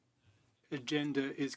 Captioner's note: speaking in French